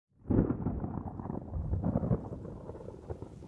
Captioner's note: thunder rumbling